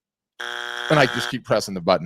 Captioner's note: buzzer beeps